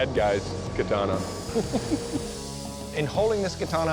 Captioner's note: chuckles